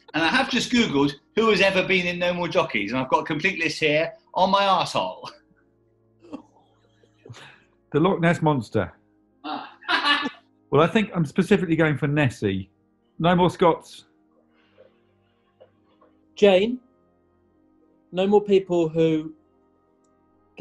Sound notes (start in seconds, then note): 6.3 giggling; 9.5 laughs